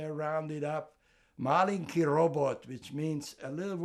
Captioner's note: russian